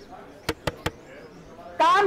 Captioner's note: Knocks on door